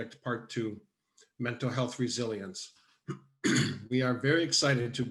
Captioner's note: coughs